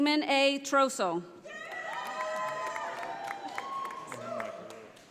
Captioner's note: audience applauding